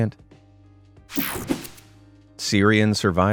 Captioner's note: graphic whooshing